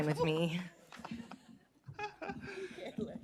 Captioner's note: laughter